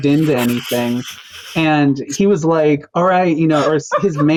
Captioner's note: cracking up